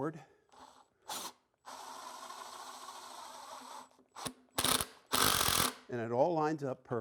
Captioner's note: drilling